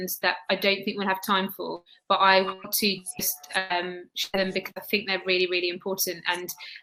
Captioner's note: erm